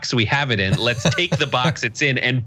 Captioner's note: laugh